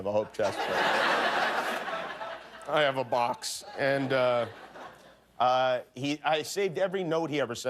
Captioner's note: laughter